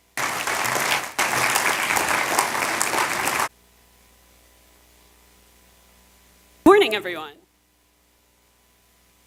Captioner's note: applause